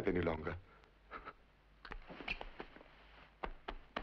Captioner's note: whimpers